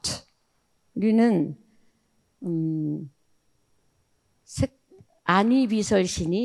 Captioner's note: speaking in foreign language